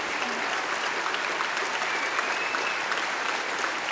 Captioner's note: applause